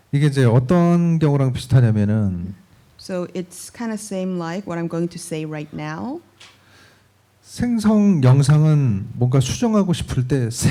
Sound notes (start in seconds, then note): 0.2 speaking korean; 7.2 speaking korean